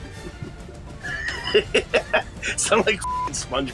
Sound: men laughing

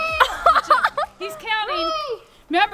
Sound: laughing

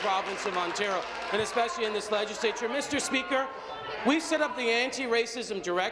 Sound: applause

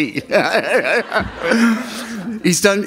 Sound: laughter

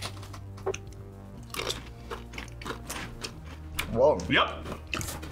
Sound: chips crunching

